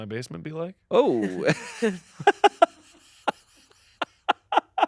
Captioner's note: laughs